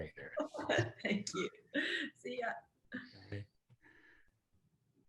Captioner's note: chuckles